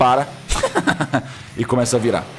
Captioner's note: laughs